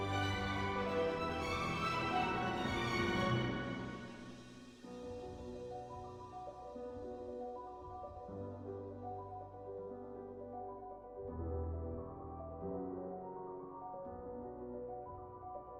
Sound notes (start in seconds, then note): none